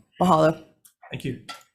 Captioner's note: speaking in foreign language